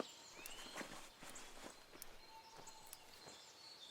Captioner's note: birds chirping